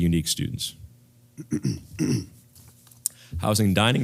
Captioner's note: cough